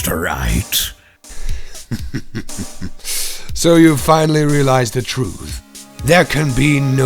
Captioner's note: laughs